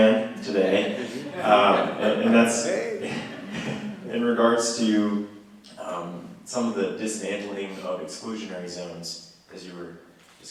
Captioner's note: laughter